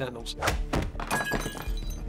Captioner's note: glass shatters